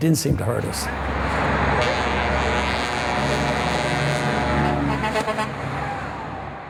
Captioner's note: traffic, horns